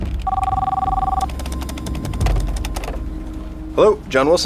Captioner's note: phone ringing